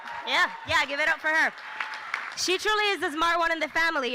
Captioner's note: applause